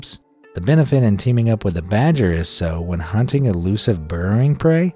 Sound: none

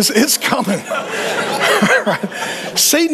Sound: congregation laughing

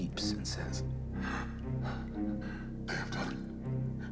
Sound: breathing heavily

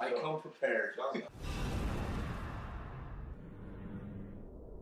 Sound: whoosh

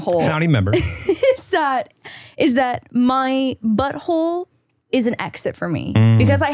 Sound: laughs

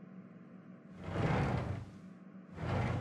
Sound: sliding door opens; sliding door closes

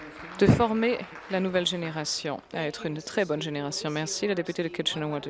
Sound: applause

